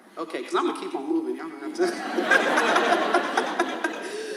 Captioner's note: audience laughs; laughs